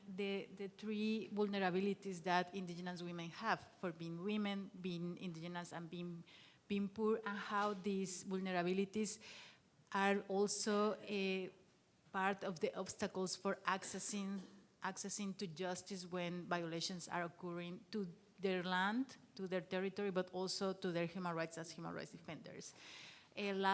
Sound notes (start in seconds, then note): none